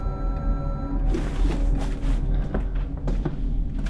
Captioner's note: terminal beeping